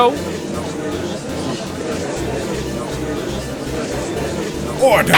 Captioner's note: gallery chattering